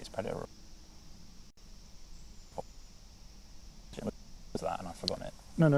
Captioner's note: break in transmission